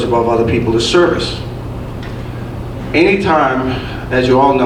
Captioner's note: none